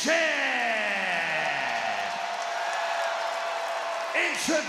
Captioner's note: crowd clap and cheer